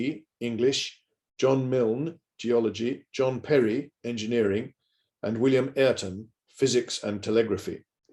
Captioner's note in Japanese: 英語